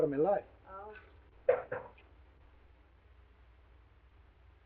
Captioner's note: knocking on door